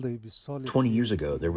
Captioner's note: through translator